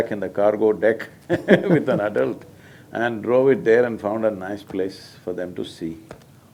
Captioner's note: laughs